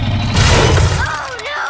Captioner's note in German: Crash